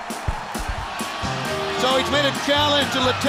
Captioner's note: crowd cheering